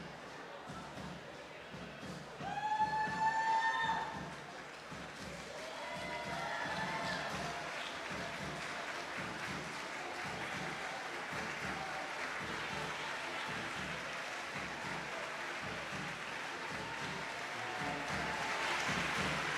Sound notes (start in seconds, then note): 3.8 audience whooping and applauding; 17.8 lively band music